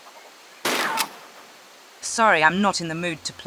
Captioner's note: bam